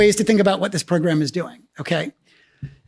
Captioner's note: none